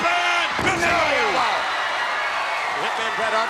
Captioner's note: audience cheers